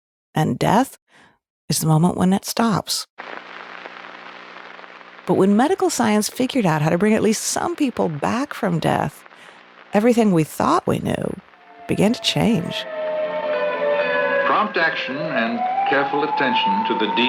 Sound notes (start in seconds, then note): 3.4 radio static fizzling; 11.4 siren alarming